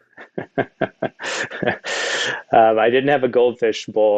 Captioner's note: Jeremy chuckles